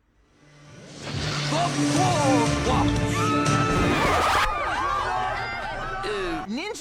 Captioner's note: screaming in fear